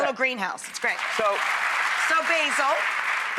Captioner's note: clapping